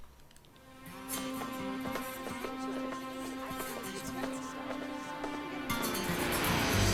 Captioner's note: slow music; overlapping chattering; laughs